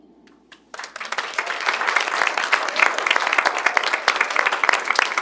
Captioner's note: audience applauds